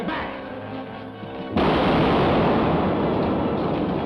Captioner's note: explosion